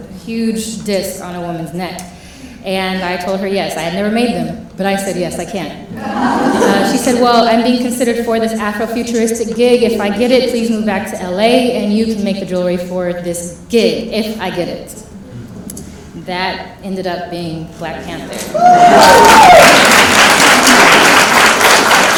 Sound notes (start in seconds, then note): 5.9 laughing; 18.6 applause and cheering